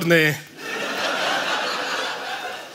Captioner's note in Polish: śmiech